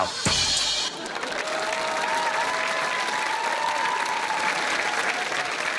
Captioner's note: cheering and applause